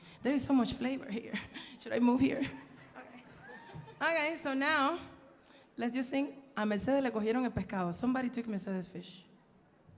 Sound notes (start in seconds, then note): 0.0 speaking in Spanish; 5.8 speaks in Spanish